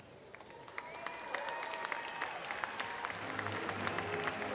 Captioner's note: audience applauds